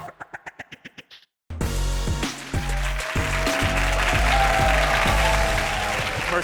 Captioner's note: soft music; audience applauds